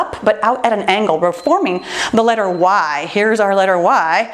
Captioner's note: timer beeps